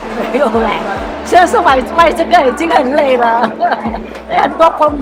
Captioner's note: laughs